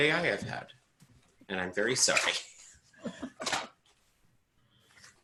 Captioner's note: laughing